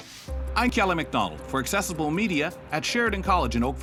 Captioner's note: voiceover